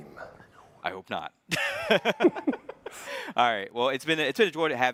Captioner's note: chuckles